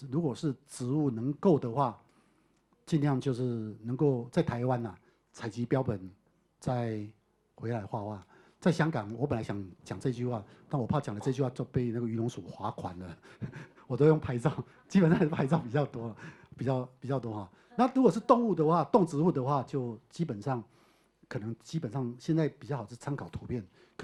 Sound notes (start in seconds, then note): 13.4 chuckles